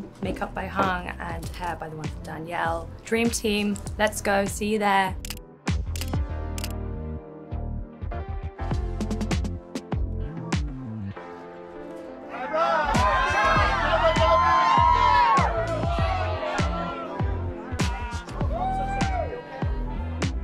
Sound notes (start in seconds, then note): 5.2 upbeat music; 5.9 camera clicking; 14.5 crowd cheering; 14.5 upbeat music continues